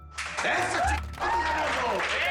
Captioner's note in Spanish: Aplausos